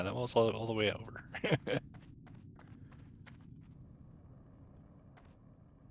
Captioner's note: laughter